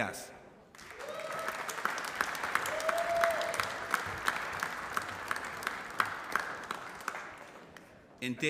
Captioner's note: applause